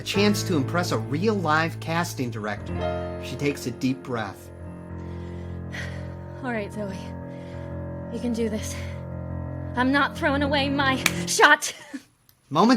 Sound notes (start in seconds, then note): 5.1 sighs; 11.0 claps